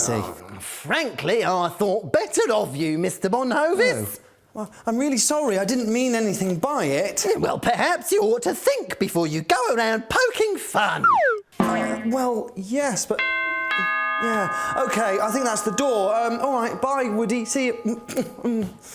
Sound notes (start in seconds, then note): 13.2 doorbell rings